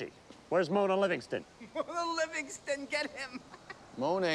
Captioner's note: laughing